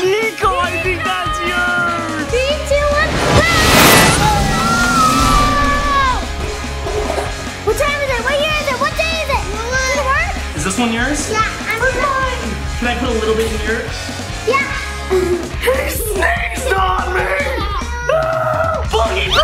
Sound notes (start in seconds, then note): 3.4 screams; 6.7 upbeat music; 14.2 sneezes; 17.8 screams